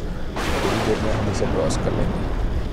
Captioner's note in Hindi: पास में बिजली गिरने की आवाज